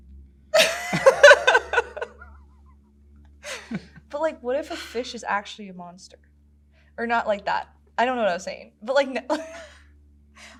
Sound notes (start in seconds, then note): 0.5 both laugh; 9.3 laughs